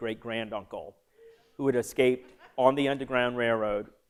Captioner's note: laughter